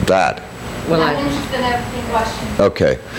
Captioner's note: woman mumbling